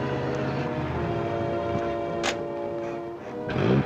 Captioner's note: car revving